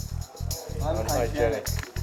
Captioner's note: marines, in chorus